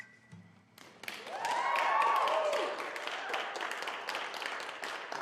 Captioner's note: applause